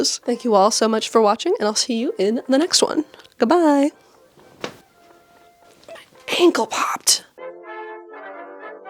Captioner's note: crack